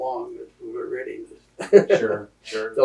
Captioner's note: laughter